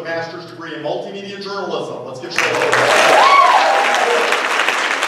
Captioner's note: applause